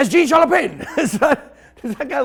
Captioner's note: snickers